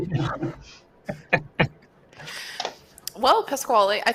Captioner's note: laughs